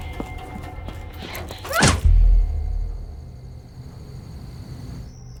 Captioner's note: punch thuds